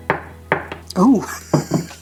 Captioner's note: chop chop chop